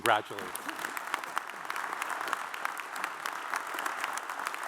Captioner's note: audience applauds